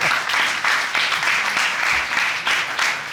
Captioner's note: laughing; applauding